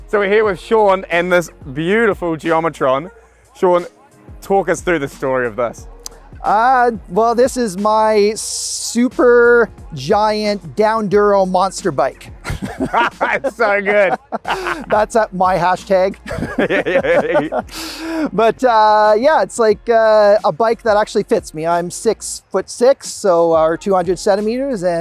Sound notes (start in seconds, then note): 12.4 they laugh